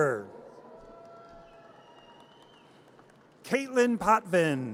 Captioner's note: audience cheers